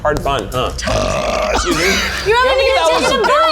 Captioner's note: burps